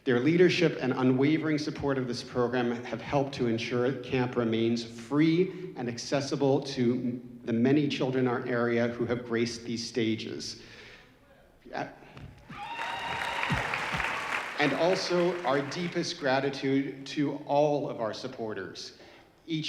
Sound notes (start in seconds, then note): 12.4 audience cheering